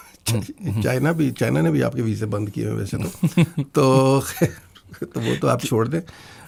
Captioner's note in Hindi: हंसी